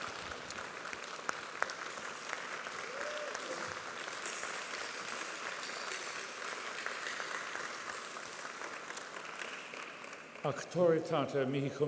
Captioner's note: applause